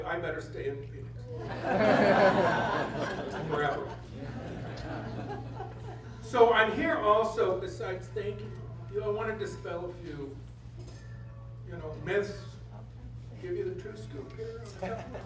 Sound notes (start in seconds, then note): 1.4 laughter